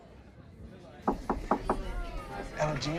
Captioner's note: knocking